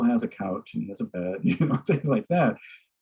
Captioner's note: laughs